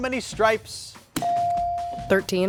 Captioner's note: buzzer dinging